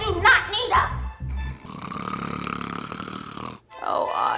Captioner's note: snoring